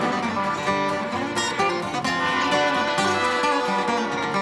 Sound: train chugging

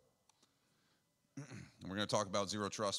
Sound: clears throat

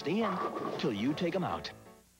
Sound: bowling pins struck

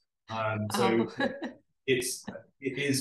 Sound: laughs

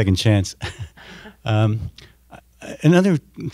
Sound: laughing

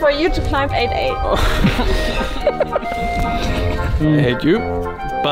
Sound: all laugh

